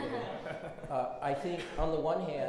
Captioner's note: everyone laughs